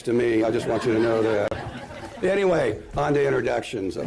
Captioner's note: laughter